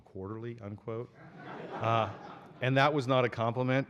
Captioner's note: laughter